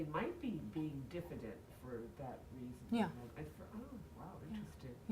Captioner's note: speaking faintly